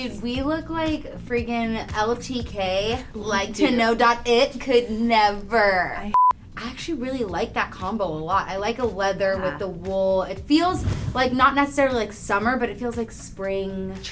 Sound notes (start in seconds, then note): 6.1 beep